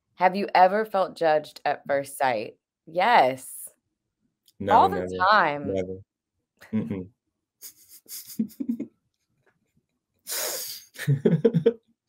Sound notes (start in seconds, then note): 7.8 they laugh together